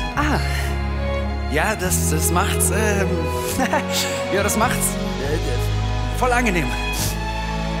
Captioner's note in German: lachen